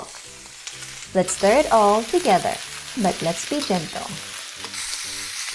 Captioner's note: sizzling; oil Sizzling